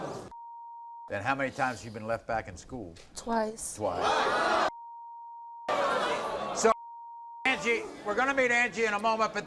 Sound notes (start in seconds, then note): 0.0 audience groans; 0.3 beep; 5.7 audience groans; 6.8 beep